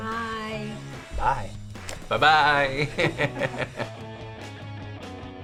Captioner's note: laughs